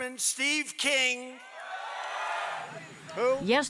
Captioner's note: cheering and applause